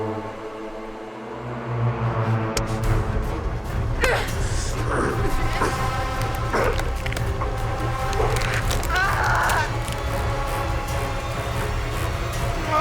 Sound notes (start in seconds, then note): 2.9 ominous music continues; 4.9 Jordyn grunting; 5.6 intense music; 8.1 Jordyn groaning; 10.7 dramatic music